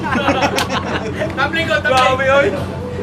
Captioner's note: laughing